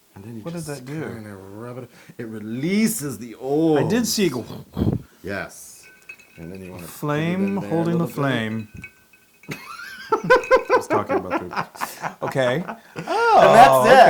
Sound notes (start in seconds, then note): 9.5 laugh